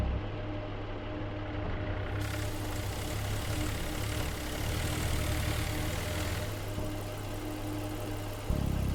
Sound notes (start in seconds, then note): 2.2 car engine revs